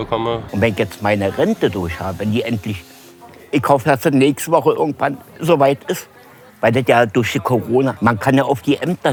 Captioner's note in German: männliche Stimme, Berliner Dialekt